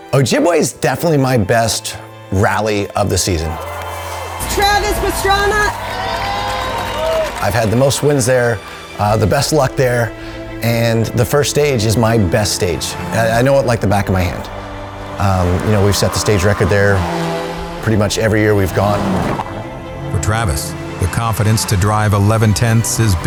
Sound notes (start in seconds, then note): 0.0 emotional music; 5.9 applause